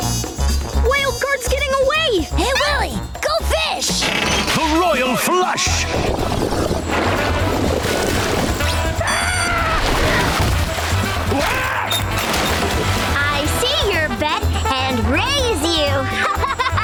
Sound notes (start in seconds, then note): 9.0 screaming; 15.8 laughing